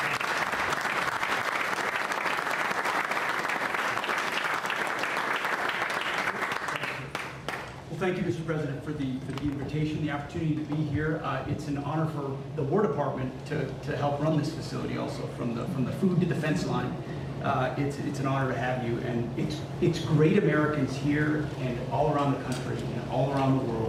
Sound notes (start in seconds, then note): 4.4 applause